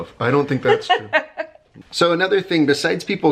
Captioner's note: laughter